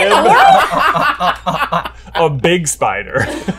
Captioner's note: all laughing